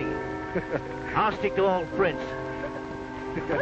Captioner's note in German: Matt lacht